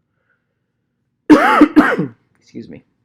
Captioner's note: coughing